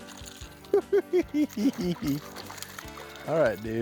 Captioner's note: chuckling